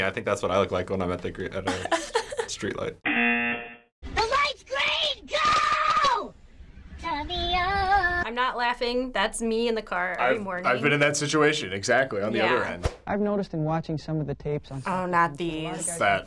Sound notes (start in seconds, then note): 3.0 buzzer